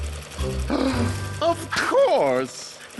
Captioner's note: gasp